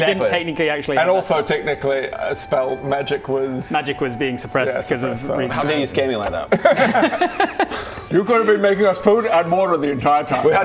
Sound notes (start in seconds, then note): 6.5 remorseless giggle